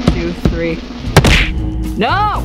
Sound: smacking noise

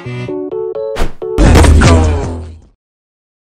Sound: car sounds

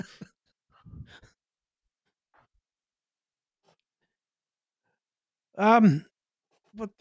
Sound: thoughtful silence

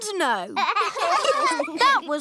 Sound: laughter

